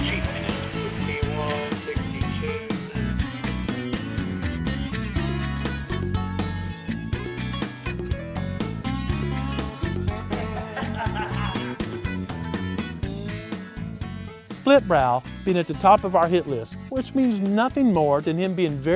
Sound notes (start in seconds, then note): 10.1 laughter